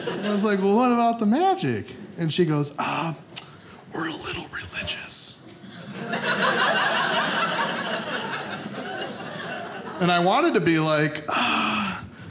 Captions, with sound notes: I was like, Well, what about the magic? And she goes, "Oh, we're a little religious." (audience laughing) And I wanted to be like, uh